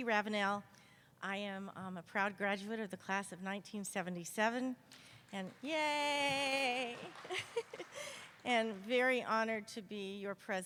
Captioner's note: applause